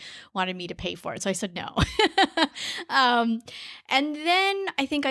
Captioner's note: laughs